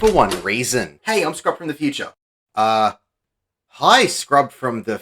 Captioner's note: door opens